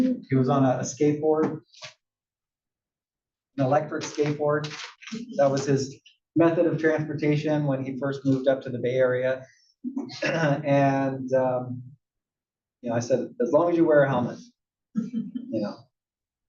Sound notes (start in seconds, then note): 10.2 cough